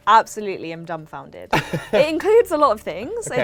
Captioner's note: laughs